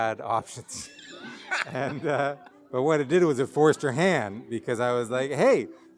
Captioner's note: laughing